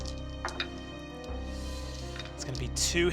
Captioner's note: rolls dice